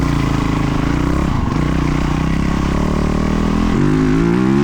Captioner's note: engine roaring